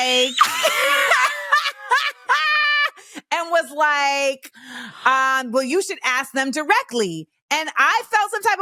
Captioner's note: laughs